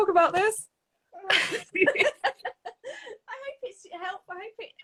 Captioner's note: both laughing